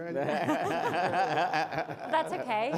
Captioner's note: laughing